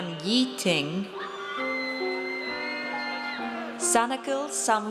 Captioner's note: audience cheers